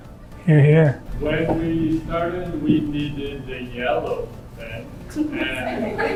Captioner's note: laughter